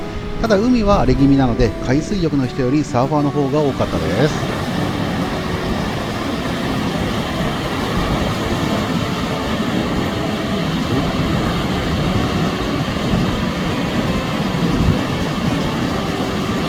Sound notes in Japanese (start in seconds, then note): 4.8 波の音